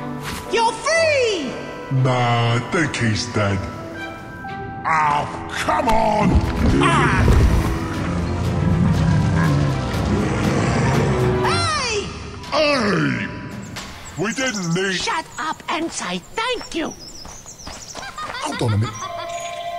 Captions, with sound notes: - You're free!! - Nah, I think he's dead. - Ah, come on... [growling of an angry creature that got kicked in the knee] - Hey! - Hi! - We didn't need— - Shut up and say thank you. - Hold on a minute... - [off-screen laughter]